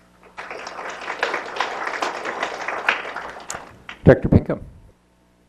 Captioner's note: applause